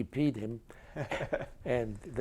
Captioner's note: chuckles